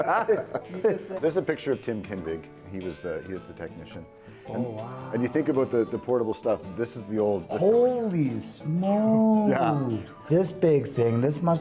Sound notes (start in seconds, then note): 4.5 laughter